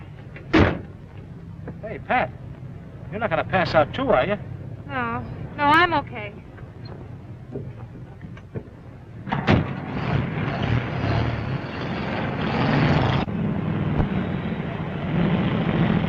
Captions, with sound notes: Hey Pat, you're not gonna pass out, too, are you? - No, no I'm okay. (engine rumbling)